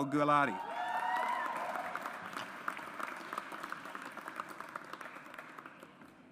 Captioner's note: audience applauds